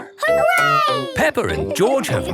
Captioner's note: laughing